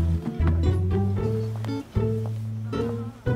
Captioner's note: Footsteps